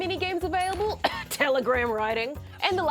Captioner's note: coughs